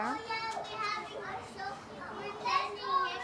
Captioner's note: indistinct chatter